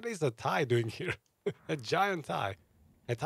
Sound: laugs

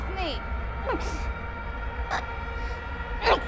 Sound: gasps for air

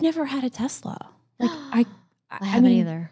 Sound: gasps

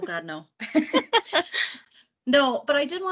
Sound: laughing

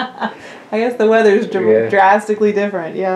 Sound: laughter

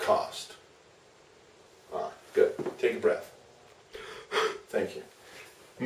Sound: voice: breathing sound

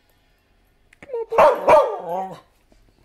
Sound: barking

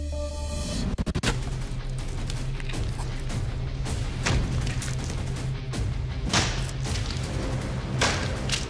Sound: impact sounds

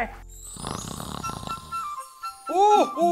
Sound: snoring

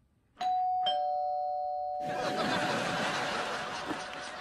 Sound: door Bell

